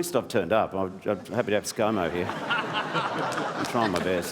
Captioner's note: laughter